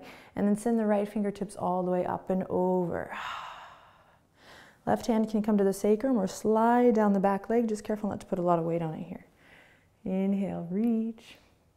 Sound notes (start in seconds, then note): 3.1 exhaling